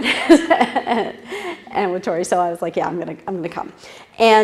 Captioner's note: laugh